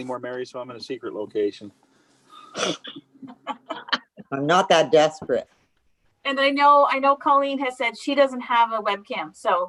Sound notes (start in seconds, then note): 3.1 both laugh